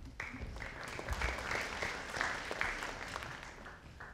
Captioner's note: audience applauding